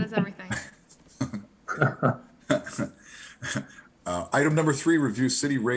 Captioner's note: chuckle